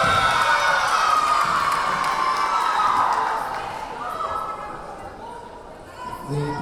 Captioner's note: cheering; whistle blowing